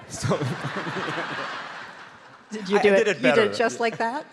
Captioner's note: audience laughs